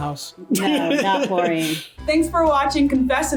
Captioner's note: laughs